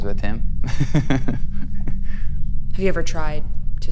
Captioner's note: laughs